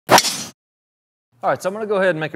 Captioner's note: golf ball hitting